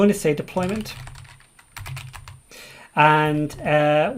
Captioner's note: keyboard keys clank